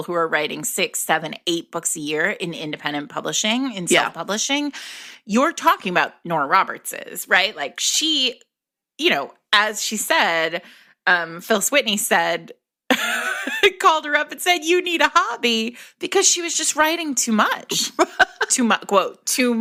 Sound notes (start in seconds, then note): 17.7 laughter